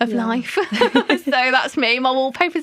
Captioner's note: laughter